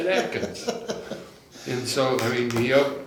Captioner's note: laughs